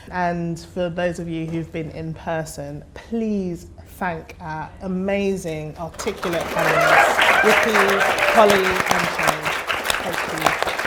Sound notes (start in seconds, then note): 5.9 audience applause and cheering